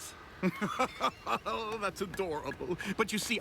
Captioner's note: laughs